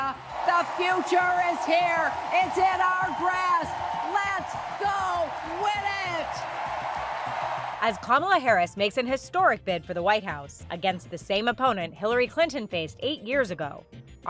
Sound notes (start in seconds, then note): 6.5 crowd cheers